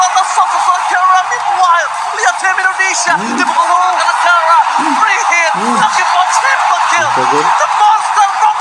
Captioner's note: applause